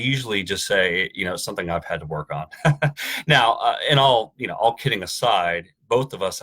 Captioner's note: chuckles